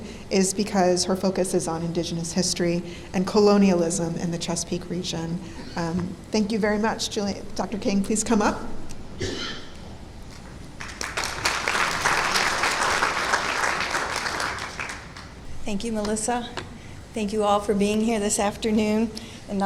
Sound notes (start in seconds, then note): 10.8 clapping